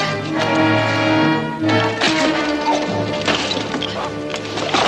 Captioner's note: groans